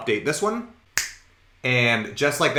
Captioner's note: snaps fingers